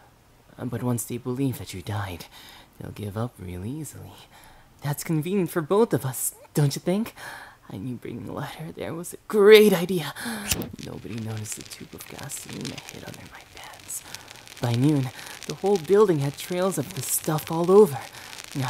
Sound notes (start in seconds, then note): 10.2 lighter ignites; 14.3 flame crackles